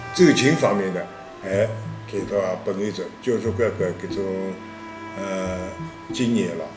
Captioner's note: wu Chinese